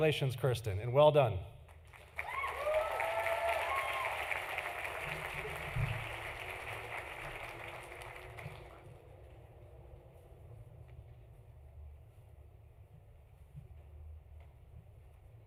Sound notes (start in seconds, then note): 1.6 applause